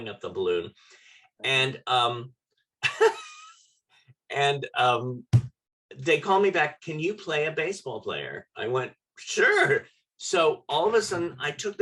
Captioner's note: laughter